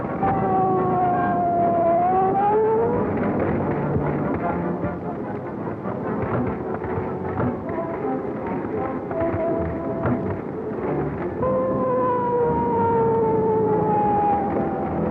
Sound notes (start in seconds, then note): 5.6 engine rumbling